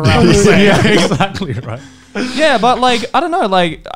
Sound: laughing loudly

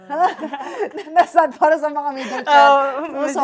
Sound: laughs

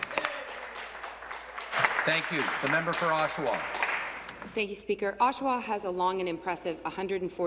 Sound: applause

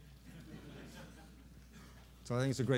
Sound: laughter

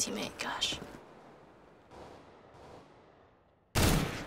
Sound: faint gunfire; blasts rifle

